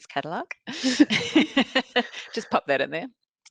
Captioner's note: all laughing